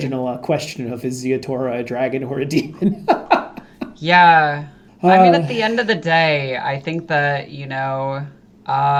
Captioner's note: laughing